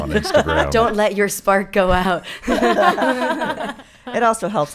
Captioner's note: laughing